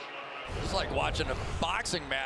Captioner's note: swoosh